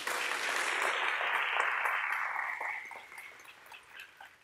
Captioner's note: audience applause